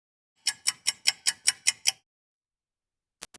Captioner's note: clock ticking